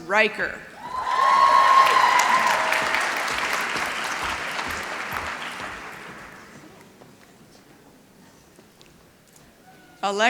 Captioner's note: applause